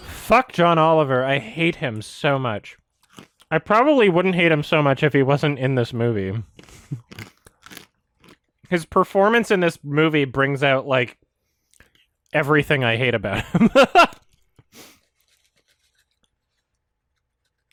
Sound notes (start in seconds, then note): 13.4 laughs